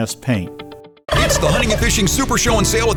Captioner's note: turkeys gobbling